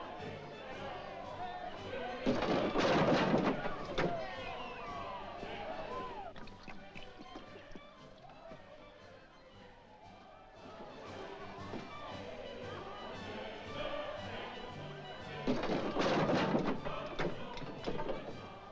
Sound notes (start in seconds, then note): 2.2 jovial music & singing; 2.2 table clatters; 6.3 swilling sound; 10.6 jovial music & singing; 15.4 door clattering